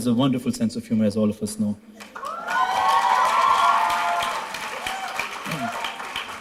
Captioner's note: applause